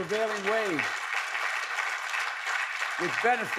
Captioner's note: applause